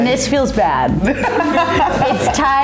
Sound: laughing

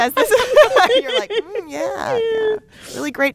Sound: laughter

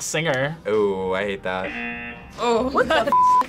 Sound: buzzer rings; laughs

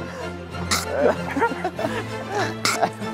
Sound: in zombie language

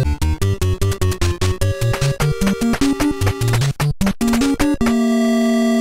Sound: walking

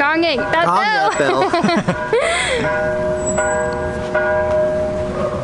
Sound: laughs

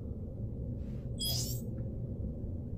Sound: scroll beeps

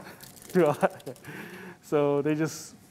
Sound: laughs

